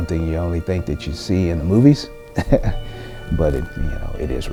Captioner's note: chuckles